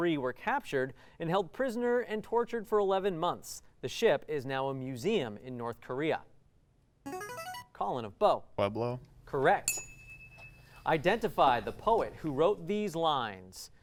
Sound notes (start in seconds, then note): 7.0 ringing; 9.6 ding